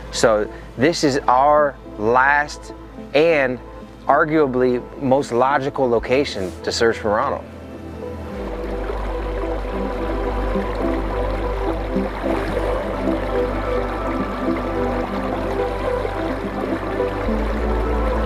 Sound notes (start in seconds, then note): 7.9 water sloshing; 8.2 bright music